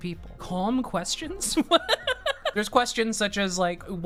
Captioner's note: laughs